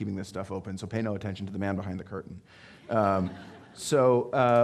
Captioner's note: audience laughing